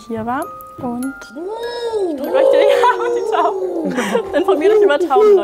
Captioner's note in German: Taubengurren